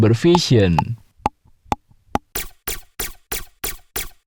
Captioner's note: dog teeth chattering